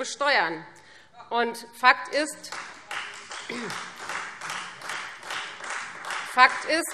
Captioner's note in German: Beifall : Stimmt doch gar nicht!